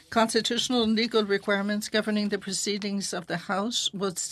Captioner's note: speaking French